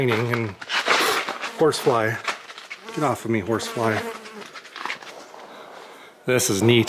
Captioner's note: buzzing